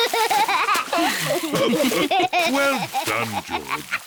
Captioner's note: all laugh; laughs